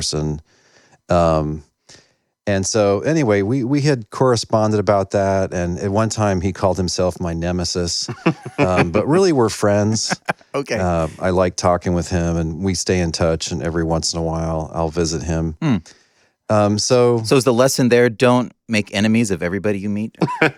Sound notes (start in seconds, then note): 8.0 laughter; 9.8 laughing